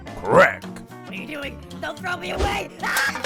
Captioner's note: can screaming in agony as it's thrown away